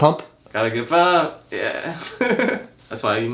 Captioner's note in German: lacht